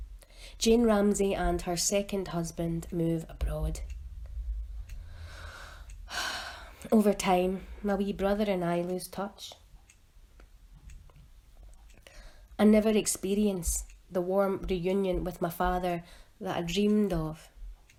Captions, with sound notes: Jane Ramsey and her second husband move abroad. (DEEP INHALE AND EXHALE) Over time my wee brother and I lose touch. I never experience the warm reunion with my father that I dreamed of.